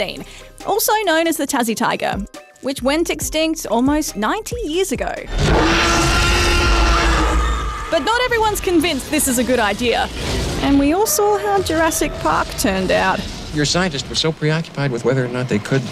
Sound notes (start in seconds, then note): 5.3 t-rex roars; 5.3 screams